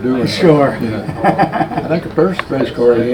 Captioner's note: man laughs